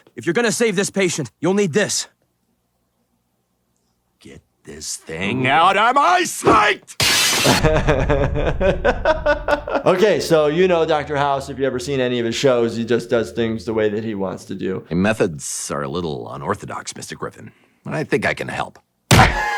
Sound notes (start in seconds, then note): 7.0 glass crashing; 7.4 laughing